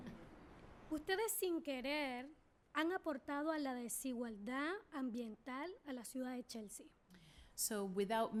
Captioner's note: speaking spanish